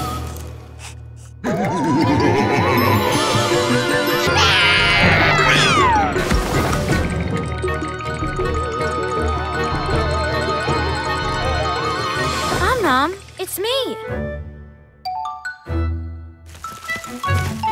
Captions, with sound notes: [Om Nom's yelling] Om Nom, it's me!